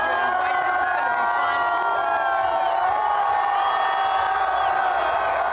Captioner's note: cheering